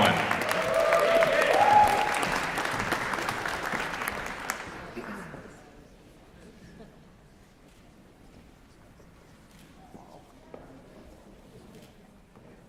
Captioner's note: applause